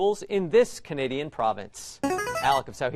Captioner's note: player buzzer